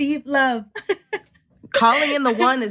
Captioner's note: laughter